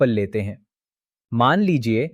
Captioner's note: pause